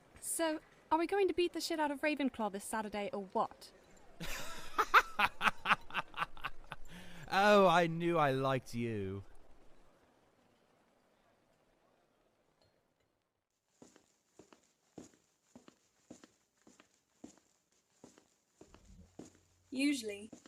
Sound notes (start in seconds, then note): 4.2 Sirius barks out a laugh